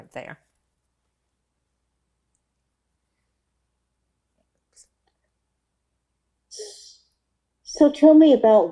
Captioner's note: pauses 6 seconds